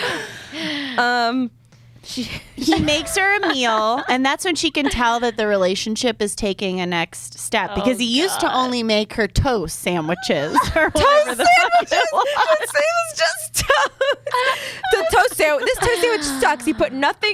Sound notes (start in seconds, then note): 10.5 laughter